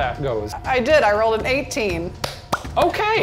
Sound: clapping

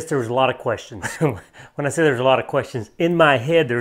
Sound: laughs

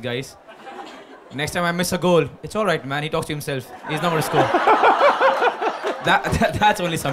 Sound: laughter; laughter

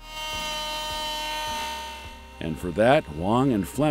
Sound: machine buzzing

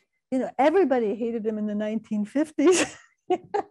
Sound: laughing

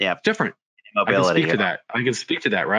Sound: both chattering

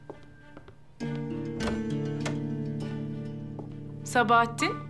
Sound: sound of door opening

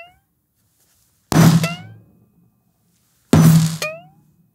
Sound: poing; whack; poing; whack; poing

